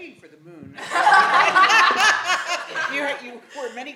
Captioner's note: laughter